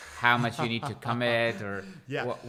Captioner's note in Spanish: laughing